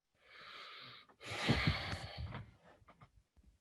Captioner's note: sighs